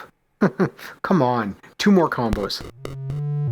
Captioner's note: chuckles